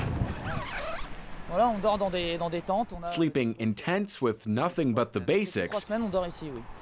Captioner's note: speaking French